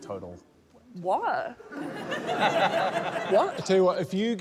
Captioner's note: laughter